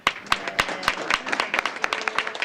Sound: applause

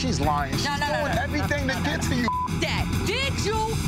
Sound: beep

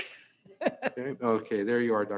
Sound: laughs

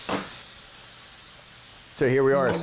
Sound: oil Sizzles

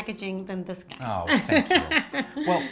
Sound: laughs

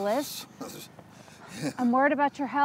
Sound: shivering

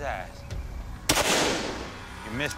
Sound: gunshot

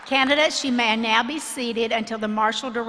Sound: applause

